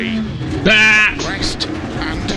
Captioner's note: scream